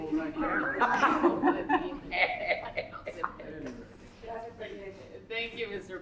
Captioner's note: laughter